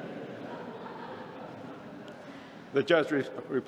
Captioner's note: laughter